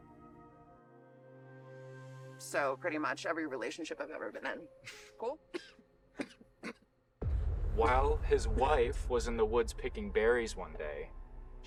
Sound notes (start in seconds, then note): 6.2 Eduardo coughing